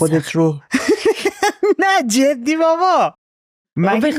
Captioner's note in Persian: خنده